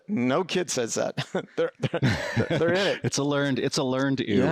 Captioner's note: laughs